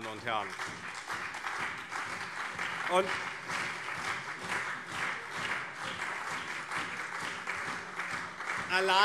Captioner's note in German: Beifall CDU und SPD